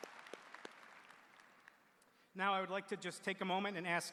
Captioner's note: applause